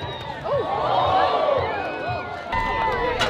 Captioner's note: crowd gasps in shock